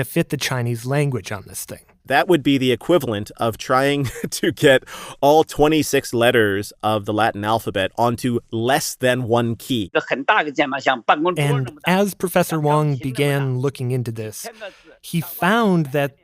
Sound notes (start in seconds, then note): 10.6 speaking Mandarin